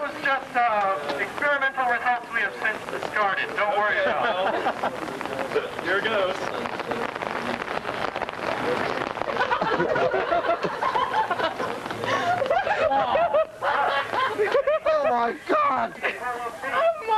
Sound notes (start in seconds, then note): 9.2 laughter